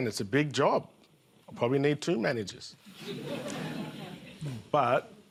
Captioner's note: laughter